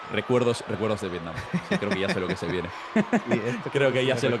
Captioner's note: laugh